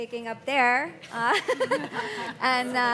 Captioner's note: panelists laughing